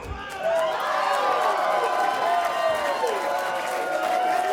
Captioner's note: audience cheers